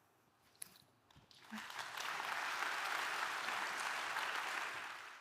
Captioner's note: audience applauding